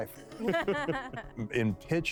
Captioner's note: laughing